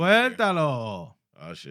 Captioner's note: non-english Speech